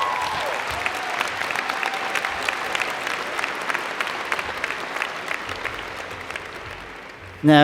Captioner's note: cheers and Applause